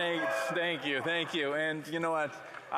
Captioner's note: some Applause